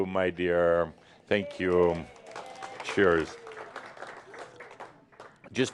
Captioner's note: some applause